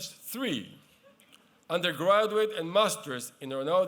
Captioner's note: none